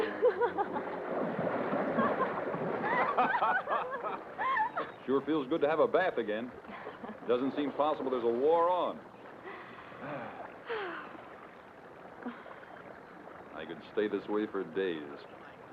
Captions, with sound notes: (Delia laughs) (Don and Delia laughing) - Sure feels good to have a bath again. Doesn't seem possible there's a war on. (Don and Delia sigh) I could stay this way for days.